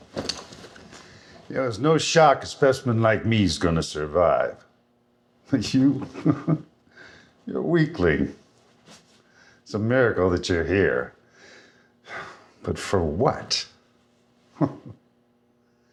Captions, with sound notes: You know it's no shock a specimen like me is going to survive. But you? [laughs] You're a weakling. It's a miracle that you're here. [sighs] But for what? [chuckles]